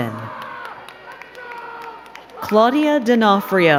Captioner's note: crowd cheering and clapping